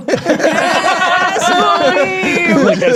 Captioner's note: players laughing